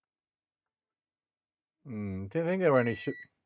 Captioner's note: beep